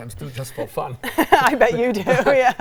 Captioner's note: laughs